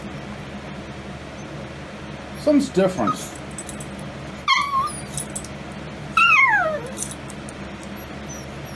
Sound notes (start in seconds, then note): 6.2 Ella whimpers